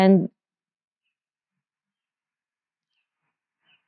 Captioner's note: silence